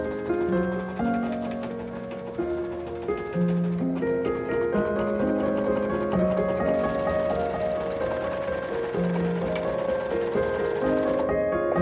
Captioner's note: also lots of mechanical sewing machine noises